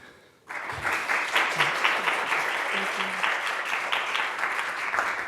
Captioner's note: audience applauding